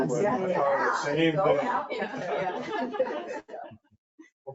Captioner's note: people laugh